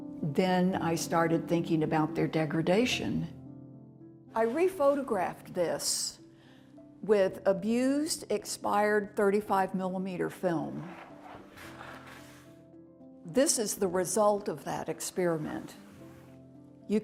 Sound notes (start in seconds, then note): 10.8 paper scraping